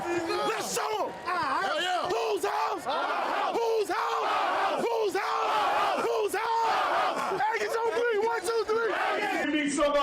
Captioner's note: screaming